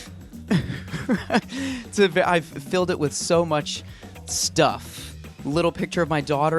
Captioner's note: chuckling